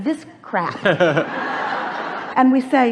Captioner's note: laughs; audience laughs